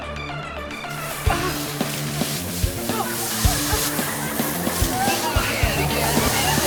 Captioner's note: lively music; water sloshing